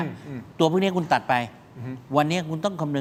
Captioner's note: clears throat